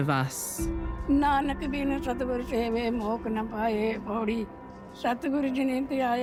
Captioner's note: old woman speaking Punjabi